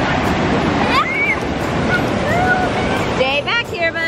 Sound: screams and laughs

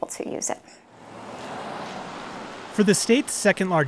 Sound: cars whooshing

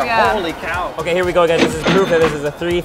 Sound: cash register ringing

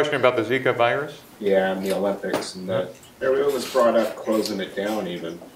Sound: voiceover

